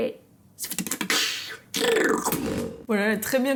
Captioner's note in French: beatbox